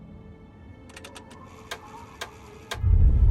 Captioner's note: device cranking; explosion roaring